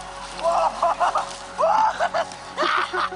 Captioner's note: kids cheering